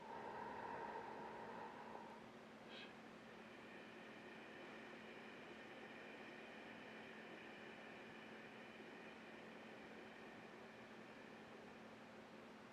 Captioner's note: breathing